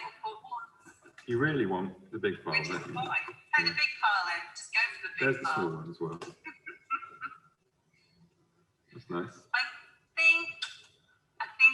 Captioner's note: laughs